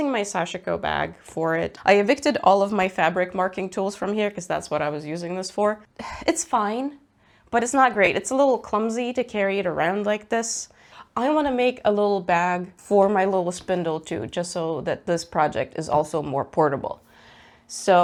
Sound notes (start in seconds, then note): 5.9 sighs